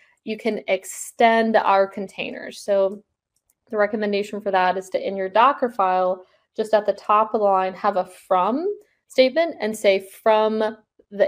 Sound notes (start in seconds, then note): none